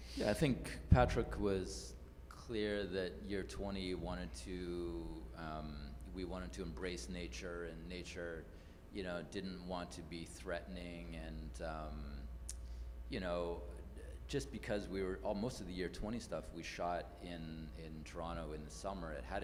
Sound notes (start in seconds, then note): none